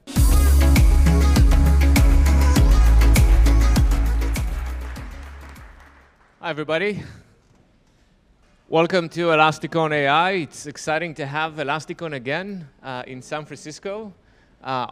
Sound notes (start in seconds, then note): 0.0 bright upbeat music; 4.7 audience clapping